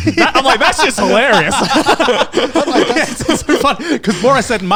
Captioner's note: everyone laughs